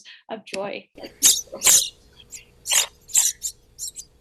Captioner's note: chirping